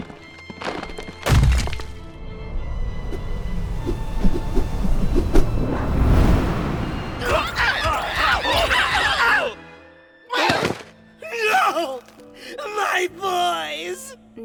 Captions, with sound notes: (Banzai cries of pain) Oof! No! My boys!